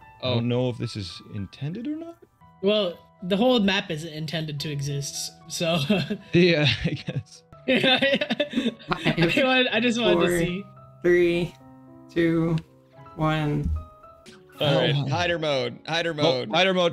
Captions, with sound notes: I don't know if this is... intended or not Well The whole map isn't intended to exist s-so [Laughs] Yeahh I guess [Laughing] [Laughing] 5... [Laughing] I just wanted to see... 4... I just wanted to see... 3... 2... 1... Hider mode! Hider mode! Oop, Hider mode! Right, switch to hider mode Hider mode! Hider mode!